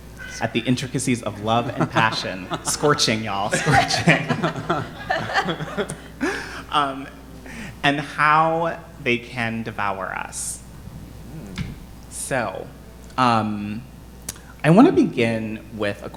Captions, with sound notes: at the intricacies of love and passion. Scorching, y'all. Scorching. (panelists laughing) And how they can devour us. So, I wanna begin with